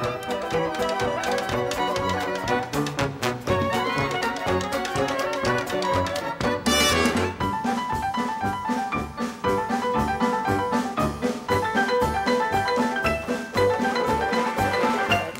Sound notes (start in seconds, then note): 0.0 tap dancing